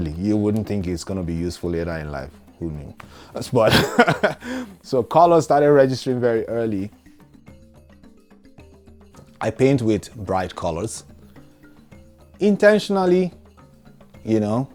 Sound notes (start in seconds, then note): 3.6 laughter